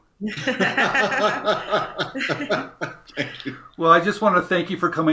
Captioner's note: happy laughter